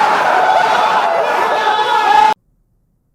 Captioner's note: everyone screaming